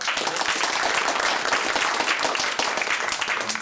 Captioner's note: applause